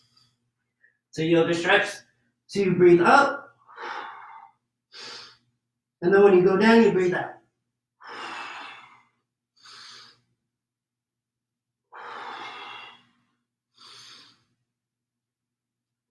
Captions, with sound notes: So you'll just stretch to breathe up, (inhales deeply) and then when you go down, you breathe out. (exhales deeply)